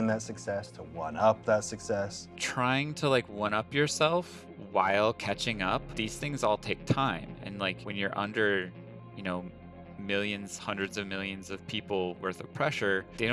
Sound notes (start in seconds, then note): none